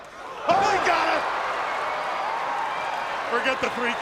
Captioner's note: crowd cheering